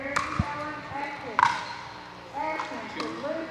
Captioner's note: ball bouncing